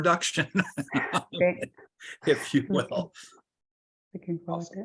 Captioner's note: laughs